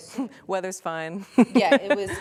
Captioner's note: laughter